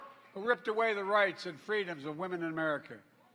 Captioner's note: applause